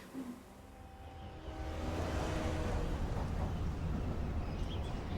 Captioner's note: train horn blaring